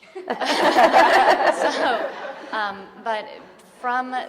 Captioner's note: audience laughing